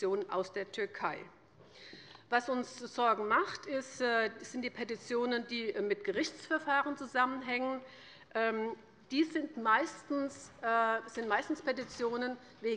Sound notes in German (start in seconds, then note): none